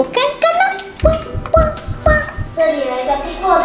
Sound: heartbeat

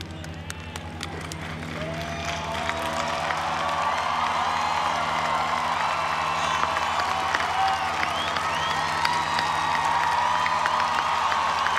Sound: applause

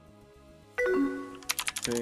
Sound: incoming message

